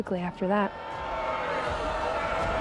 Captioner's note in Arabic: صيحات استهجان الجماهير